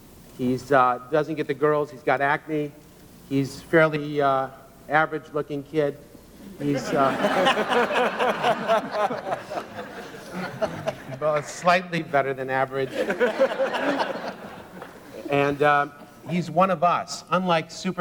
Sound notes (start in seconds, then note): 6.6 audience & Crew Laugh